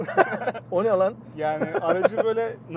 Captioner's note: laughings